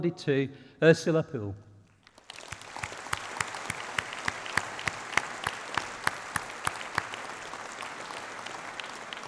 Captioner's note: applause